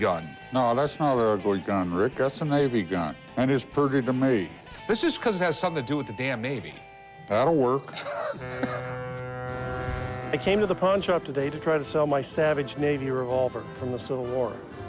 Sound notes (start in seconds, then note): 7.9 laughs; 8.4 ship horn